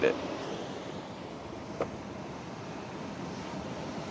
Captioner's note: ocean hissing